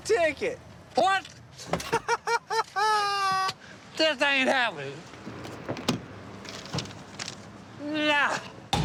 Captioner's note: laughs